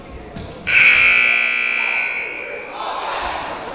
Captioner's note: buzzer